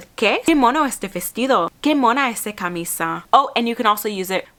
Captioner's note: speaking Spanish